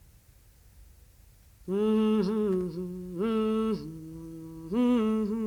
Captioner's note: hums